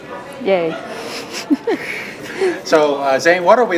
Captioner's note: students murmuring indiscernibly